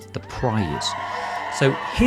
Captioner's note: audience cheering